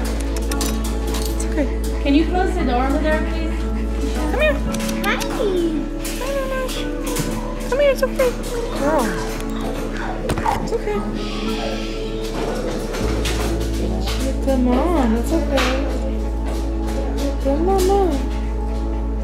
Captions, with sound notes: [Tongue clicks] It's okay. Can you close the door over there please? Come here. [Tongue clicks] Hi. Hi Mamas. Come here, it's okay. Good girl, it's okay. Shhhh. You're a good Mom. It's okay. You're a good Mama.